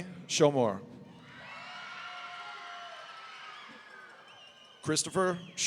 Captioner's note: audience cheering